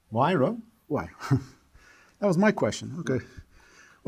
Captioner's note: chuckles